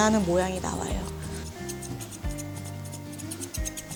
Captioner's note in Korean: 가위질 소리